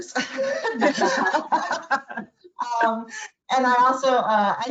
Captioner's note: women laugh